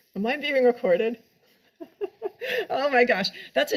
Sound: laughs

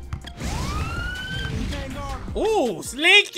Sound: sirens

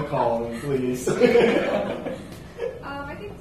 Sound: laughter

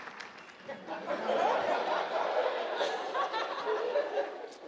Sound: audience laughing

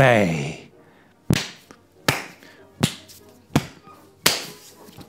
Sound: violent blows

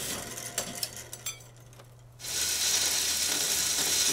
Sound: metal clanking; machine grinding

